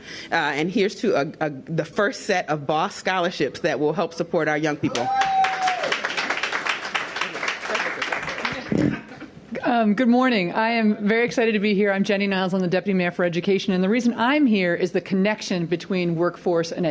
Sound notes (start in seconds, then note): 4.9 cheers and applause